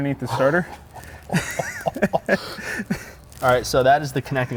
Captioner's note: chuckle